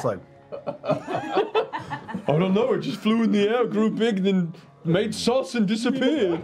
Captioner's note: dopey guard voice